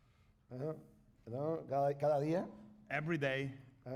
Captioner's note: speaking spanish